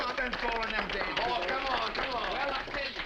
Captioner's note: all applauding